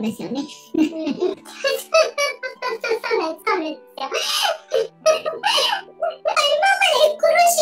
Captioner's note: laughs